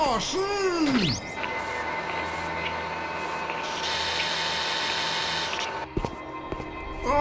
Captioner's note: buzzing and whirring of a security camera